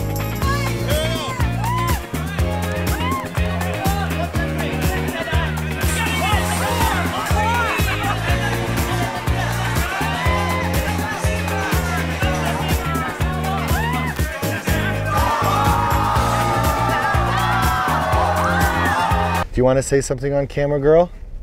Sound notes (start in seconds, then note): 8.3 loud party noises continue; 12.8 more loud party noises; 15.0 everyone goes "Ohhhhhhhhh!" simultaneously